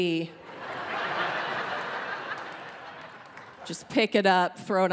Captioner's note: audience laughing